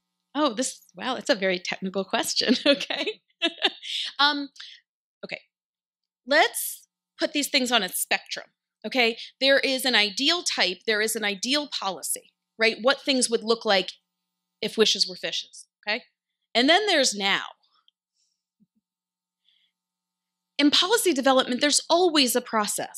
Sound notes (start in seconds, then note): 3.9 laughs